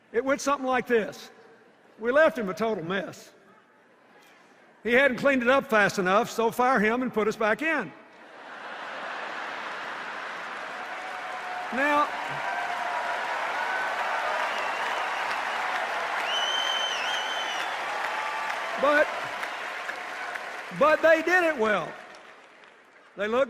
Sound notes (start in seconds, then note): 9.6 cheers and applause